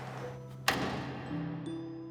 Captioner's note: closing door